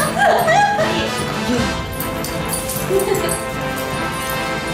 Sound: laughter

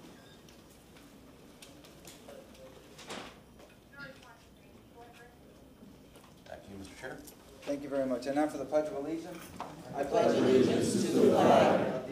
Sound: moment of silence

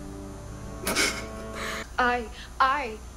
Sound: laughs

